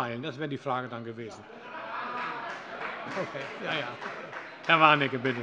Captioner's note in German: Heiterkeit und Beifall